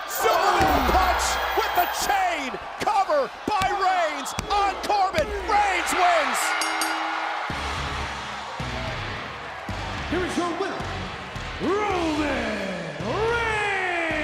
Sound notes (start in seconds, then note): 6.4 crowd cheering; 7.6 upbeat rock music